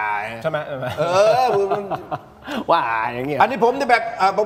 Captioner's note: laughs